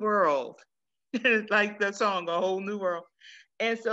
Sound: chuckles

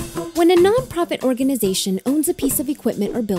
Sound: voiceover

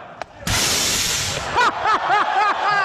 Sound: loud spray of air as canvas is impacted; crowd cheering

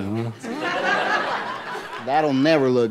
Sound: audience laughing

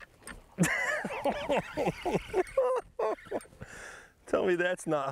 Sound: excited laughing

